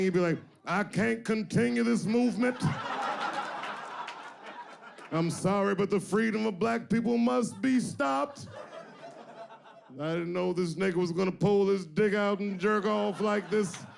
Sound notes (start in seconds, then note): 3.3 audience laughing